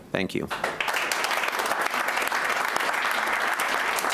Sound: clapping

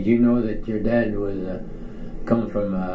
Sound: none

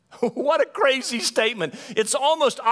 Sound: laughs

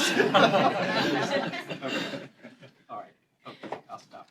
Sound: laughter

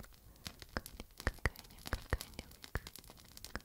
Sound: fire

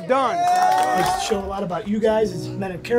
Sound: team cheering

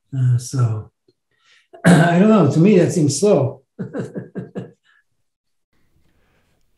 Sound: laughs

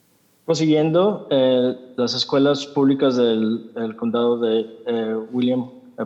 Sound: translator speaking in Spanish

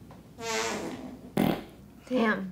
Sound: fart

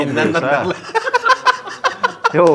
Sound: men laugh

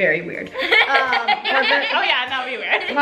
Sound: laughs

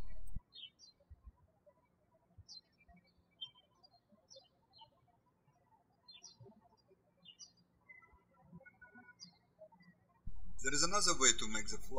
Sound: birds chirping

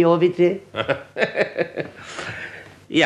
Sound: laughs briefly

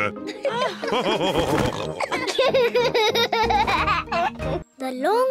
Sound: laughs; all laughing

